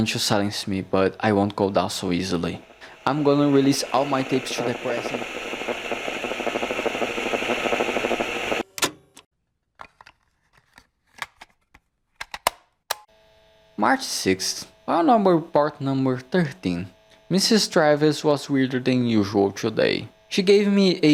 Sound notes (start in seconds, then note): 5.9 audio cuts to interference